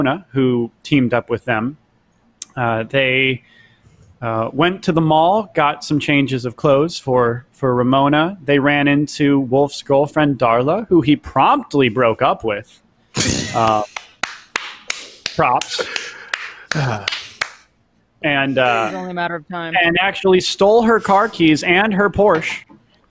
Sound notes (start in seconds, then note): 13.8 clapping